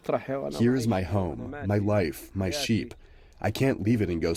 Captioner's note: through translator